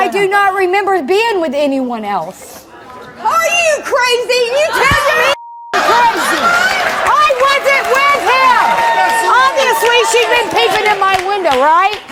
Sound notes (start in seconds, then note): 5.2 beeps; 5.3 yelling